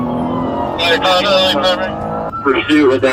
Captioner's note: radio chatter